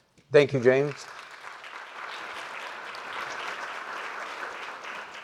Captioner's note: applause